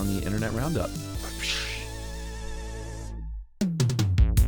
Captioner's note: imitating whip cracking; upbeat music